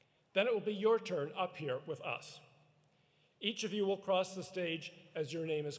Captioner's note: none